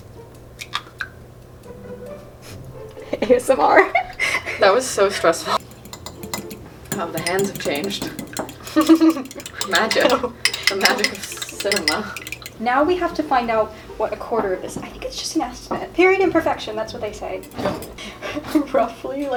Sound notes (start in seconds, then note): 4.5 laughs; 8.8 laughs